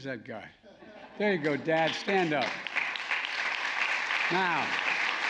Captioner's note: applause